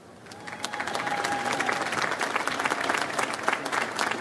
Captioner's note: audience applauds